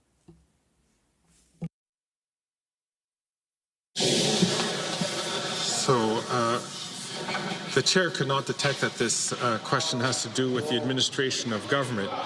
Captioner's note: some Applause